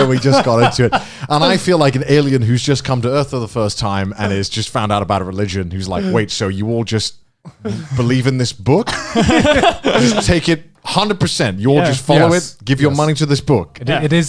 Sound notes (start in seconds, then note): 8.8 Garnt and Joey laugh